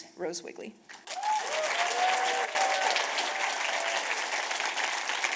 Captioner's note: audience cheers and applause